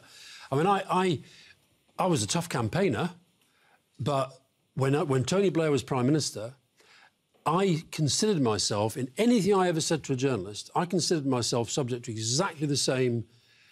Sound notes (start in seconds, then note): none